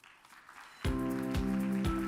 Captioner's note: audience applauds; upbeat music begins